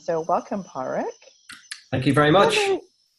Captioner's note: laughs